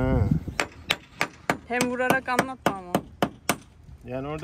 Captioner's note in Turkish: Çekiç Sesi